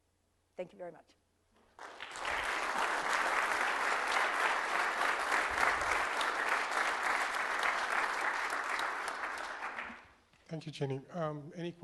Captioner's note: applause